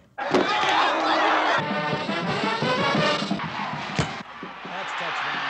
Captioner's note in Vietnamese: Tiếng hò hét; Tiếng cổ vũ